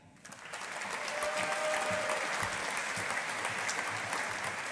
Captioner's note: audience applauding